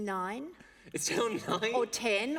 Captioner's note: laughter